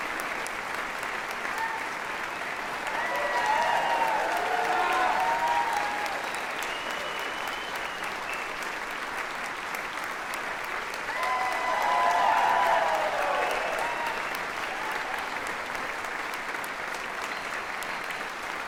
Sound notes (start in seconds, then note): 4.2 audience clapping and cheering